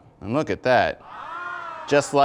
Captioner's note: ahhh!